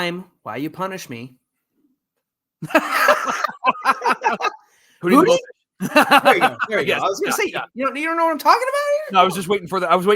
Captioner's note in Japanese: 笑い